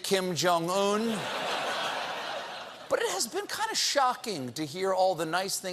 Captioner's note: laughter